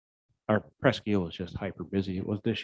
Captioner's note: murmurs